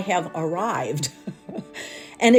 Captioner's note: chuckling